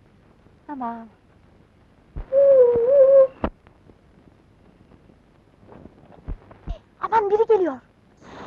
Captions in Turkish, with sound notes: Tamaam! [Islık sesi] Aman biri geliyor!